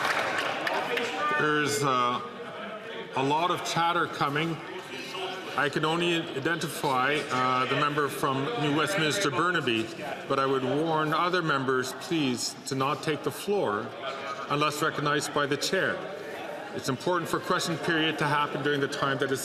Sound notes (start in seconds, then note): 0.0 some Applause